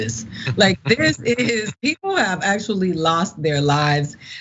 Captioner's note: laugh